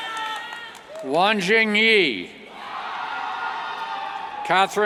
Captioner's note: cheers